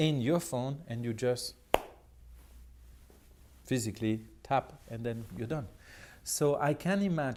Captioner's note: clap